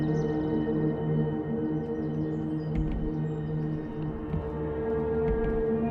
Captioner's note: birds chirping